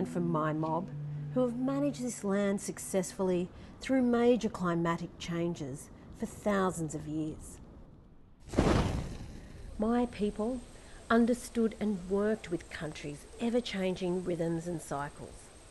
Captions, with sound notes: from my mob who have managed this land successfully through major climatic changes for thousands of years. (fire whooshing) My people understood and worked with Country's ever changing rhythms and cycles.